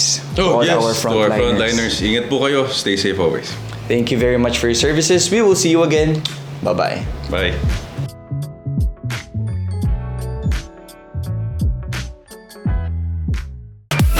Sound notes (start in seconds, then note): 6.1 kiss